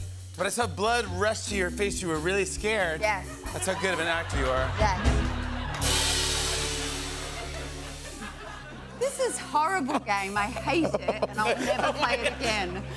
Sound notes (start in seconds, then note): 4.5 laughter; 8.5 suspenseful music plays